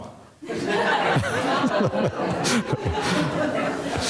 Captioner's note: audience laughing